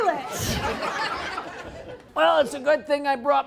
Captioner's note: laughter continues